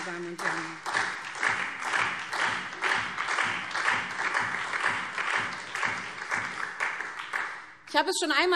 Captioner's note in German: Beifall SPD und vereinzelt Freie Demokraten